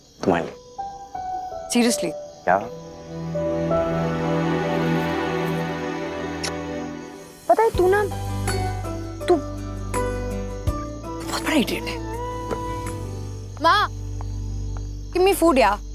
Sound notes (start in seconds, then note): 6.4 kisses